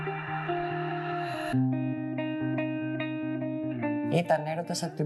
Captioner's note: non-english speech